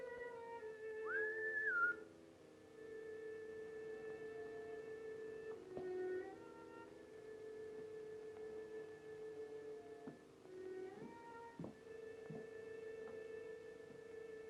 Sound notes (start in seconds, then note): 1.0 whistles; 2.7 slow violin music